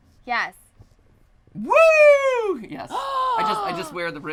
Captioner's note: fake gasp